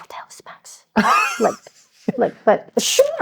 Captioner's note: laughing